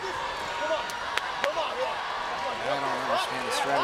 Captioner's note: crowd cheering